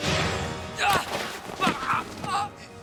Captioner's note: harry grunting